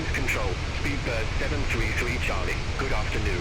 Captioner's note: radio chatter